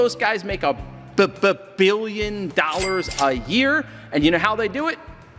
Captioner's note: cash register rings